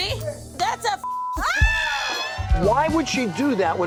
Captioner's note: scream